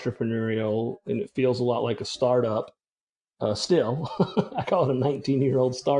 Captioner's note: laughs